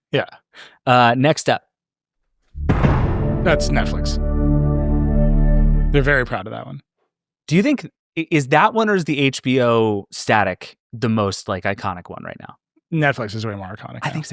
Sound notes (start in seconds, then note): 2.6 dramatic boom